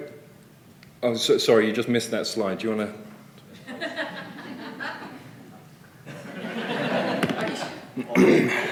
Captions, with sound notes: Sorry, you missed that slide. (Laughter)